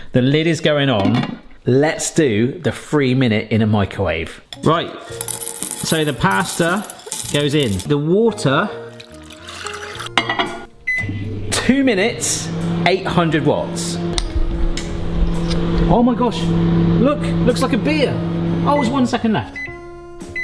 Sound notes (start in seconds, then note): 5.1 macaroni tinkling; 8.8 water sloshes; 11.0 beeps; 18.8 beeping